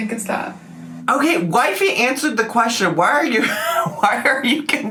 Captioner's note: laughs